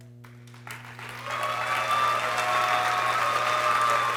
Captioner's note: people cheering